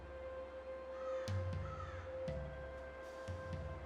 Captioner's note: crow caws